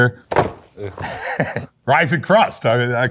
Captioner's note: box rustling; chuckles